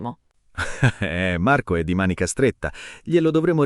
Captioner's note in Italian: Haha